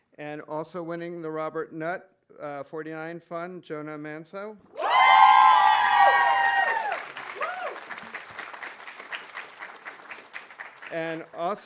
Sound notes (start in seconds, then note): 4.7 audience cheering; 4.8 audience applauding